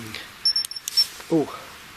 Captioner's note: alarm ringing